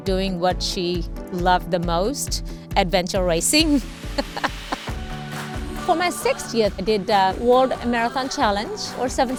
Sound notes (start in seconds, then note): 4.2 laughing